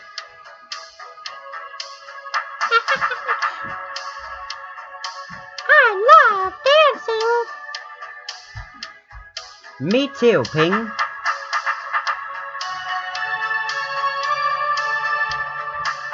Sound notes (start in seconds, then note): 2.7 giggling